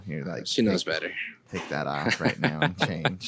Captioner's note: laughs